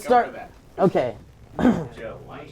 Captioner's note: clears throat